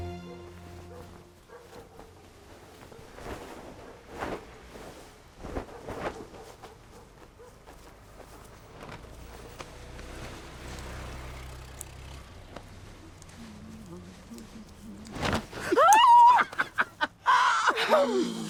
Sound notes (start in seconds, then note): 0.2 dog barking in distance; 9.0 car approaching; 13.2 humming; 15.4 shrieking in surprise; 15.5 laughing